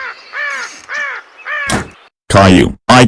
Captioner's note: door creaks open; door slams shut